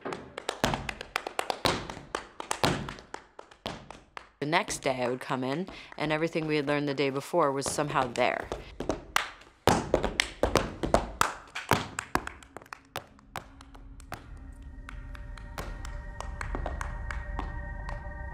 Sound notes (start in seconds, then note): 0.0 clapping and stomping; 8.8 stomping and clapping; 13.9 soft instrumental music